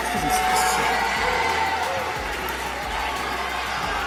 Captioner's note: booing continues